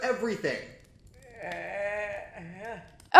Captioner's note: depressing moans from down below